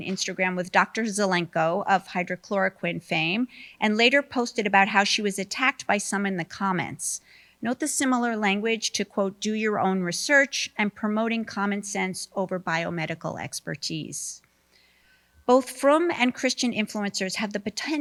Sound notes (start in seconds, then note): none